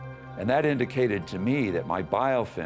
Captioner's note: none